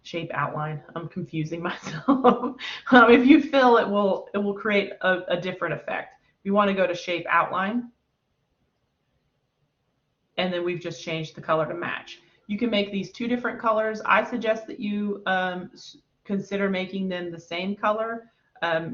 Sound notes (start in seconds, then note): 1.8 laughter